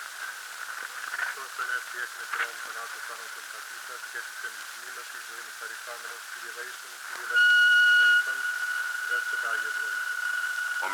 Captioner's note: speaking in Greek in background